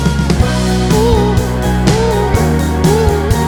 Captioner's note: vocalizing